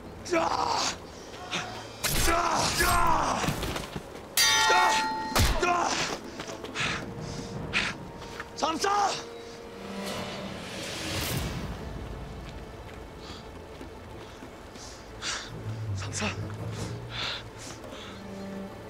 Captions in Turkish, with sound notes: Yah! (Dövüş sesleri) Samsa! Samsa.